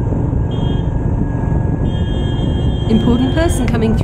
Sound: horn beeping

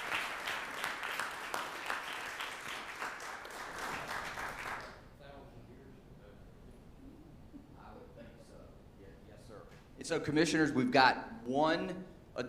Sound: applause

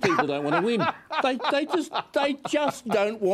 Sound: laughs

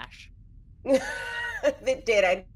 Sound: person laughing

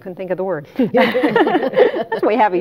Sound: all laughing

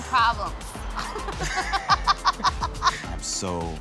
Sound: laughing

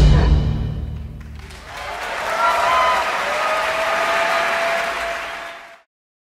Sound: applause

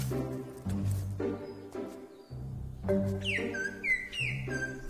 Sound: lemur whistles

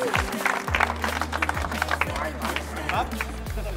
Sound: clapping

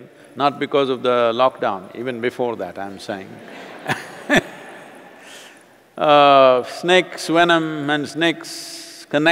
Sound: laughter

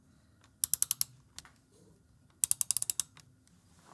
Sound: ratcheting

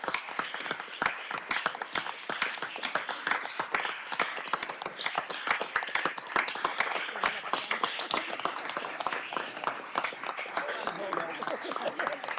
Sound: applause

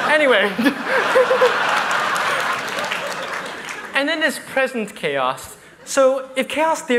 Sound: laughter

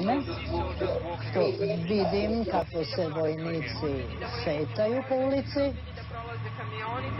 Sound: news anchor speaking in foreign language; people speaking in foreign language; news anchor speaking in foreign language

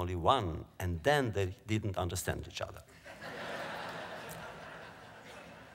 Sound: laughter

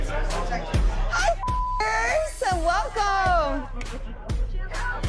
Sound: beep

